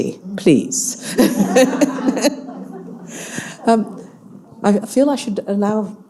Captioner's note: audience laughing